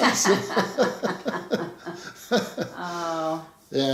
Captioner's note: both laughing